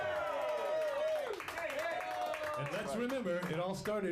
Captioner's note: audience cheering